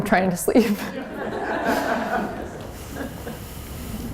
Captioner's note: laughter